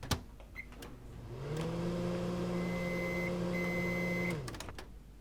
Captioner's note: microwave whirring, beeps